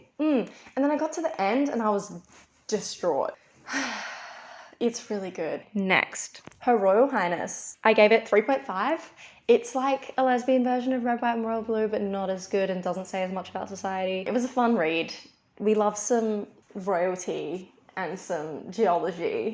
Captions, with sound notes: mmmm' and then i got to the end and i was DISTRAUGHT *sigh* its really good next. 'Her Royal Highness' i gave it a 3.5, its like a lesbian version of 'Red White and Royal Blue' but not as good and doesn't say as much about society it was a fun read. we love some royalty and some geology